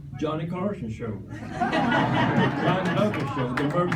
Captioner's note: laughter